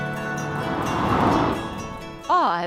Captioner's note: car zooms